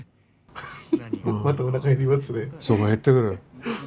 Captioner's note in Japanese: 笑い